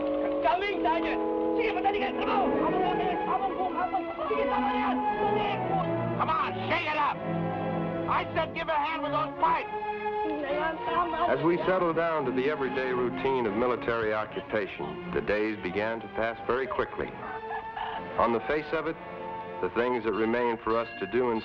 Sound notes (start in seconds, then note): 1.6 man speaking in Tagalog